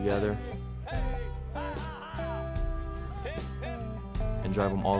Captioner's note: background music; cowboys yelling